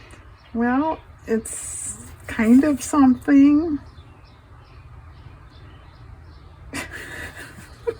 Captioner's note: laughs